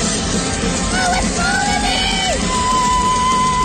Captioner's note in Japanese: 絶叫